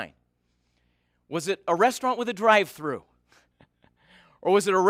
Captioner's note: chuckles